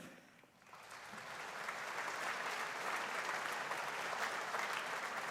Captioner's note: audience applauding